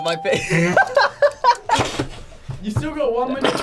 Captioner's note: laughs